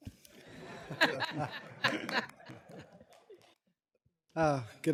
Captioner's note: laughter